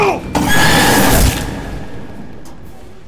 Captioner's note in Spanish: Grito